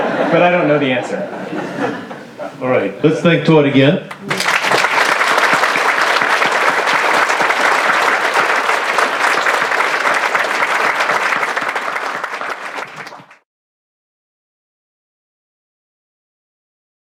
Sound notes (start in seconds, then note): 3.6 applause